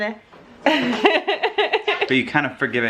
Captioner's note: laughing